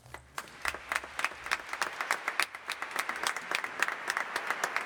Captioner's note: audience applauding